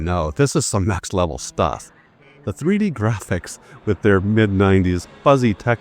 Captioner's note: chuckling